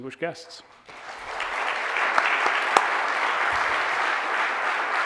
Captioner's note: audience applauding